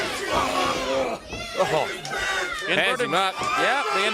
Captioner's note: crowd chatter